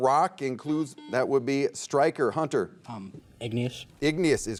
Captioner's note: buzzer beeping